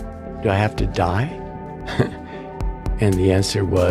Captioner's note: chuckles